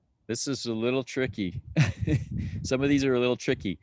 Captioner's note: laughing